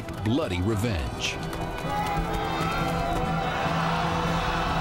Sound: battle cry

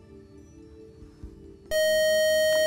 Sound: buzz

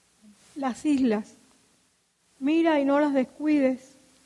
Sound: speaking in Spanish

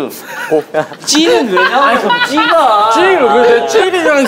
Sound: laughing

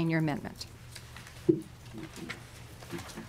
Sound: gavel

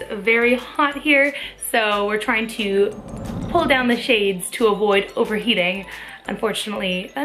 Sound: whoosh

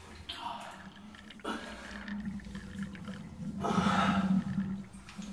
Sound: water dripping; water gurgling down drain

